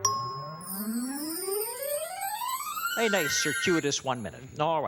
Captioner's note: ringing